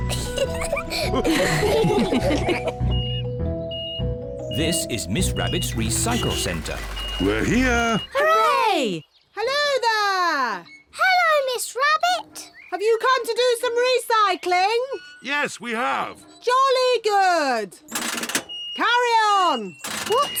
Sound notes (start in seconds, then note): 0.0 all laugh; 2.0 crane beeping